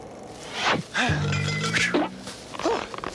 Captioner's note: groans; sighs; clears throat